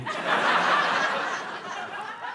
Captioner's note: laughter